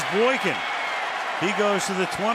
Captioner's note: cheering